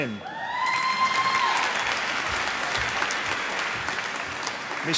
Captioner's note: applause